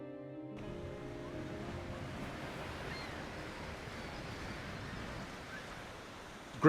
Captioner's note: seagulls squawking